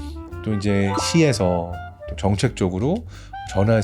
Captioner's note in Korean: 반짝이는 효과음